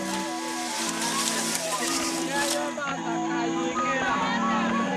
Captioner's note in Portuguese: Árvore caindo